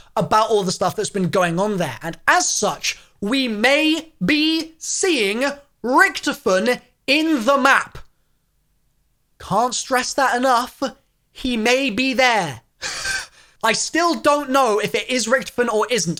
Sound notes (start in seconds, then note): 12.8 giggles